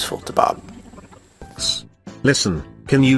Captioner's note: rewinding sound